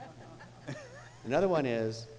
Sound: laughing

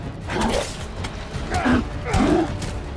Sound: Master Chief grunting; creature roaring

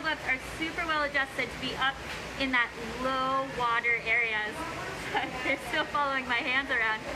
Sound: laughs

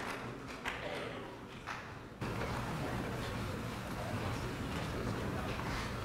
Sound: applause

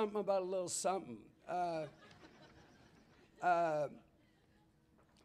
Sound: laughter

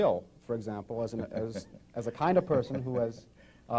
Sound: Malcom X snickering

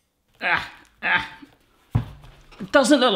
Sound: grunting

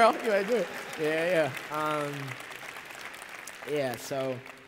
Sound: applause

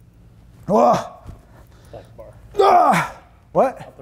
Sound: grunting

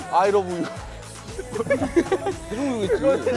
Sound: kekekekeke

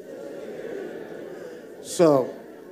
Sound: congregation murmuring

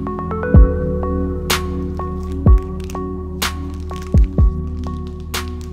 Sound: plastic unwrapping

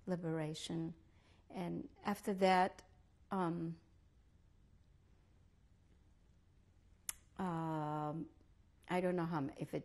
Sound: pauses for 6 seconds

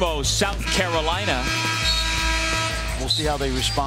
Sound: buzzer blows

